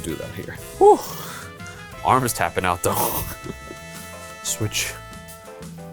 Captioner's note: laughs